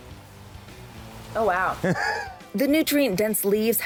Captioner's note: laughs